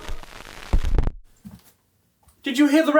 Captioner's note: record scratching